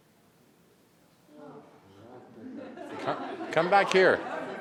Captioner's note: group quietly conversing